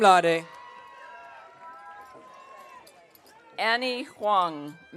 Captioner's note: audience cheering